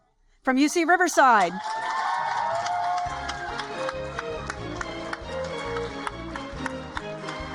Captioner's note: upbeat music; audience applaud and cheer